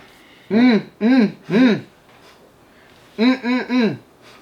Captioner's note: humming